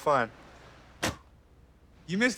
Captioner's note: car door closes